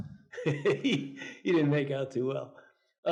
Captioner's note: Anthony giggles